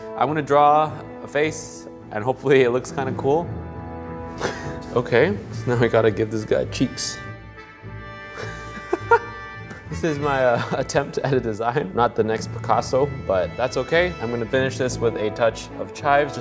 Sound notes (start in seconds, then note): 3.9 dramatic music; 7.6 dramatic music; 8.4 laughing